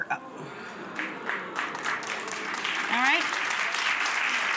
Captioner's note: audience clapping